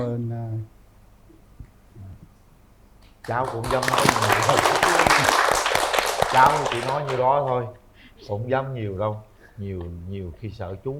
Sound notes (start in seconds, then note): 3.2 applause